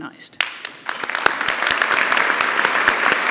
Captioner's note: applause